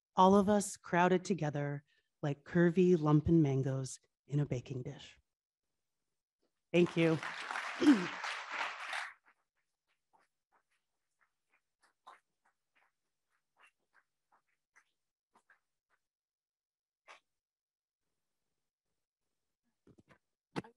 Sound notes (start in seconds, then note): 6.7 audience clapping